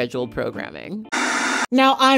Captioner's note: static